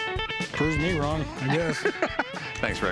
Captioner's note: laughs